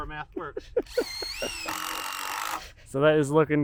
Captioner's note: drill buzzing